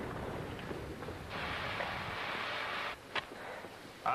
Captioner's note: steam hisses